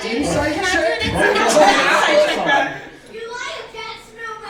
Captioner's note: laughing